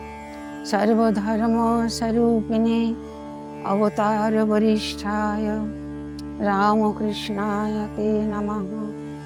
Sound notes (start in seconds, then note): 0.7 chanting